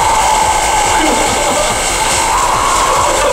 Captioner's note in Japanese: 笑い